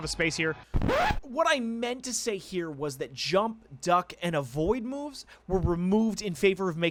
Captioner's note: Record scratch, VO Mork